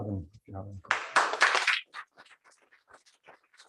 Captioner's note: applause